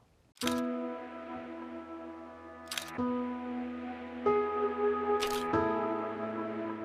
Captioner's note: camera shutter clicking